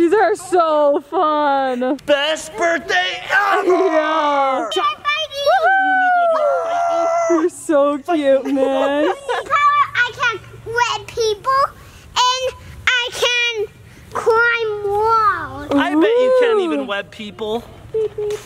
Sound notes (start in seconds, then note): 4.6 overlapping speech and cheering